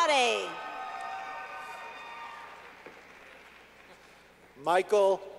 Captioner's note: clapping